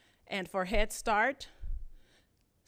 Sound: none

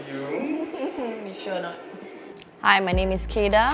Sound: laughter

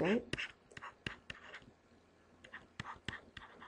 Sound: scribbling

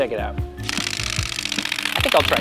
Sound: flapping

